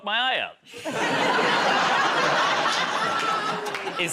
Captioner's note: laughter